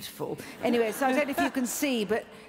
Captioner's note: laughs